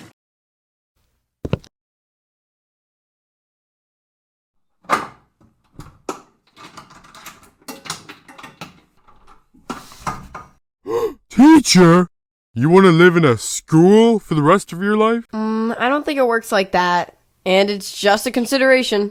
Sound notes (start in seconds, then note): 1.4 final footstep; 4.8 door unlocking